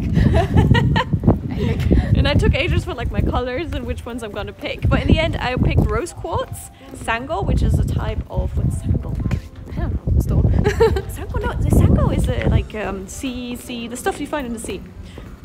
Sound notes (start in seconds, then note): 0.0 laughter; 10.6 laugh